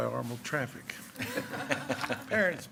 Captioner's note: audience laughing